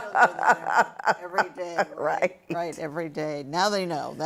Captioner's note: laughter